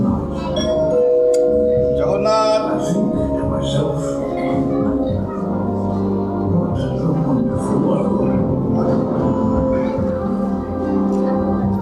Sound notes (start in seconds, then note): 0.6 door bell